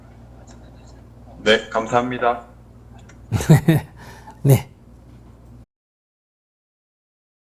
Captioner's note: laughter